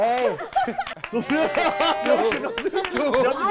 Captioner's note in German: Jubel